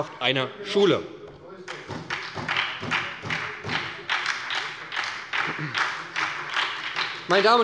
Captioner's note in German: Beifall bei der SPD